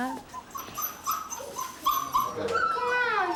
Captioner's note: dog whining